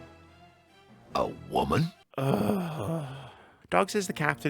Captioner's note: sighs